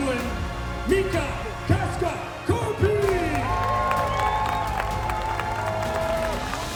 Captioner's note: applause